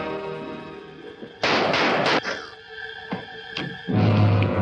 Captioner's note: gun firing